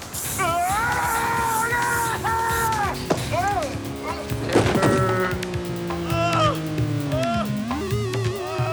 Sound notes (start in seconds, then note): 0.3 screams; 6.0 man groaning